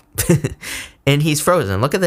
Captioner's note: chuckles